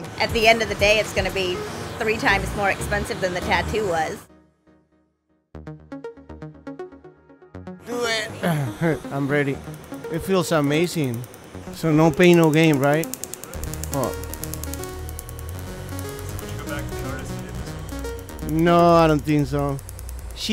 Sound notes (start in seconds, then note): 7.9 laugh